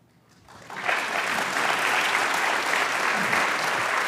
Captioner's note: applause